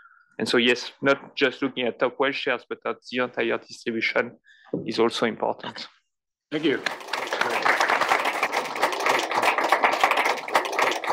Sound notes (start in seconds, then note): 6.5 applause